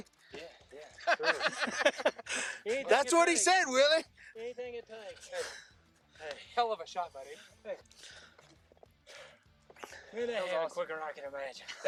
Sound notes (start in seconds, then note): 0.8 laughter